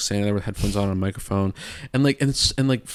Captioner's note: imitates static